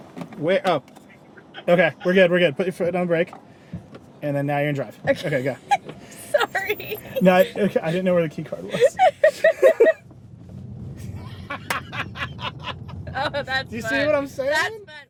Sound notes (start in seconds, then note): 8.4 laughing